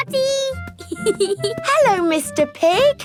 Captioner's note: snorts; giggling